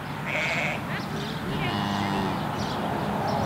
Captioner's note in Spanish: Sonido ambiente, la vaca muge